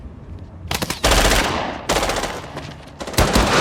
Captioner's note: gun firing